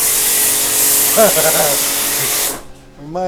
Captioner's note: laughter